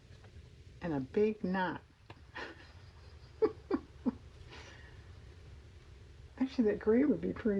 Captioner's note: laughs